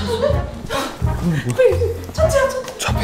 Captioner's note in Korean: 다급한 소리